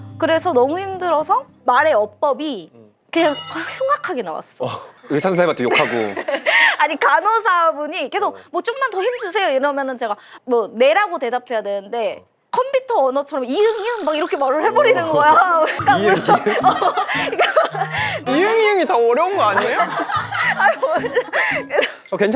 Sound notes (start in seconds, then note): 3.2 speech turned harsh due to pain